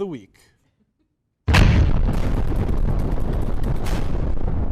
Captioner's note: explosion sound effect